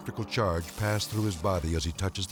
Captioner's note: electricity sizzling